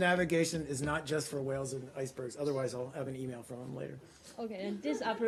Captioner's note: laughter